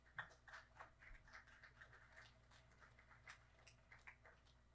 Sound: audience clapping

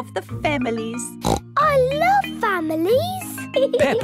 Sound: snorts

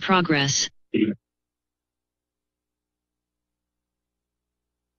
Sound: silence

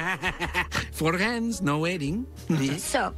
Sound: laughs

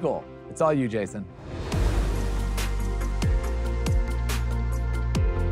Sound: transition whooshing

